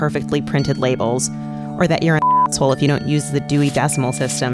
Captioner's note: beep